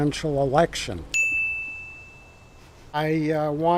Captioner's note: bell chiming